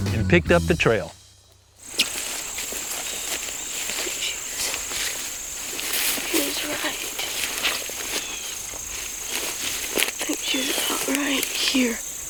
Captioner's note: whispering